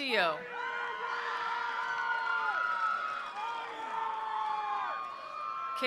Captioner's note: attendees cheering; attendees applauding